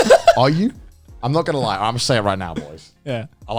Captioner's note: laughing